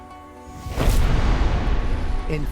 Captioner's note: explodes